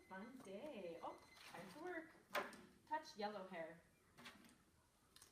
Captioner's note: timer beeping